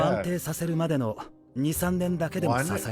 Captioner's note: speaking Japanese